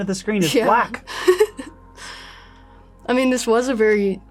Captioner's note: giggles